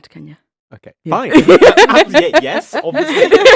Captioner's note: laughs